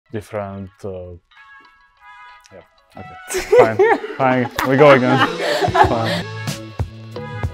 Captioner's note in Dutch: gelach